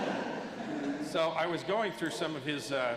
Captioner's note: laughter